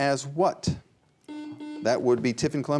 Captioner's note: buzzer beeping